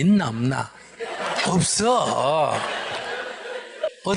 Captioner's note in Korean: 청중 웃음